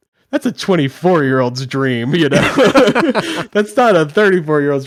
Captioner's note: hosts laughing